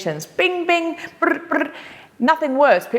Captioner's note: trilling